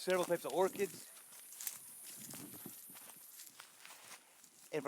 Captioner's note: sounds of walking